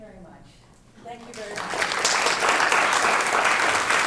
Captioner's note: applause